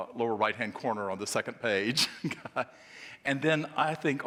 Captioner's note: laughing